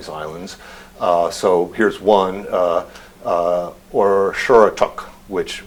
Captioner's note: non-english speech